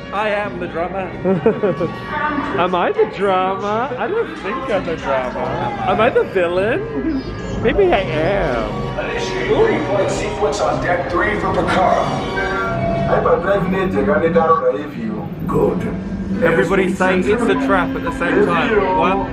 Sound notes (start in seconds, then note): 1.2 laughs